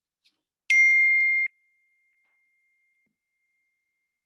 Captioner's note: bell dings